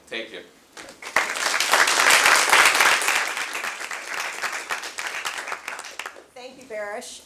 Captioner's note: applause